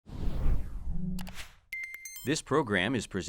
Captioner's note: whooshing